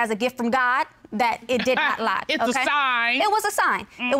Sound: chuckles

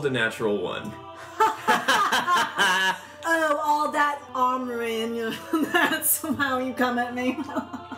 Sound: LILIANA and ZYZZIX laugh

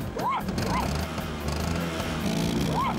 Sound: engine Revs Loudly; barking

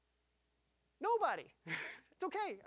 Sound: laughing

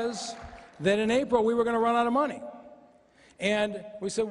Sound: applause

